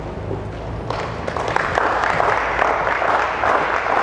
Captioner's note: applause